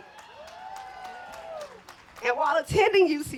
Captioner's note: applause